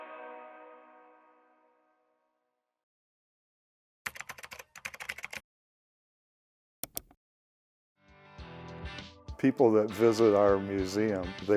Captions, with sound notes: (keyboard taps) (mouse clicks) (upbeat music) - People that visit our museum,